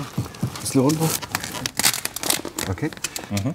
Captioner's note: stretching noises